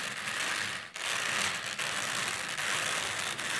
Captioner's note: whirring